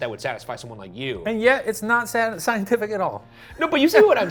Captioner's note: chuckles